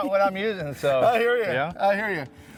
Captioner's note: both chuckling